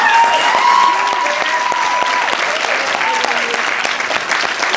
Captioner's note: applause